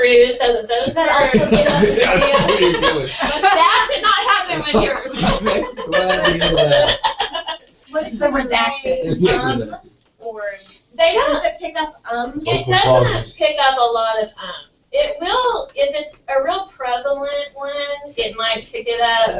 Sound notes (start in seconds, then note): 9.3 laugh